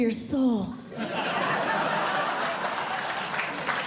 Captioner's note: audience Laughing; audience Clapping